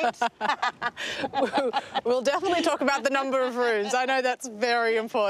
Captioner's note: laughs